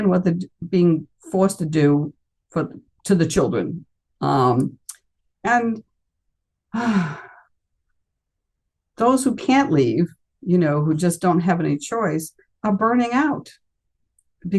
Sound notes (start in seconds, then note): 6.7 sighs deeply